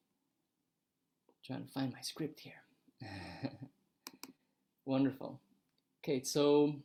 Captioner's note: chuckles